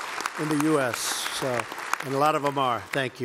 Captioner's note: applause